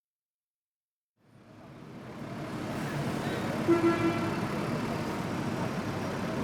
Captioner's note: quiet street. sounds of traffic & people walking